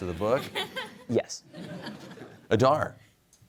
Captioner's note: laughter